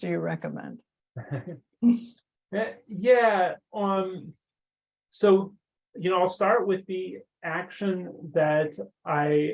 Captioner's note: chuckles